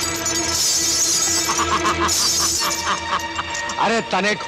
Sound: laughs

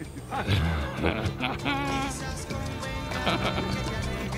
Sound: laughter

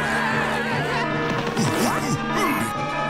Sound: alarm blaring

